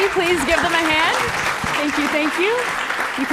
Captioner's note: applause